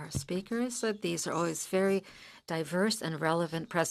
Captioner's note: speaking in French